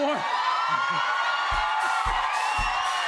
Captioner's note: cheers and applause; funk music plays